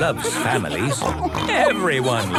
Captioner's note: snorts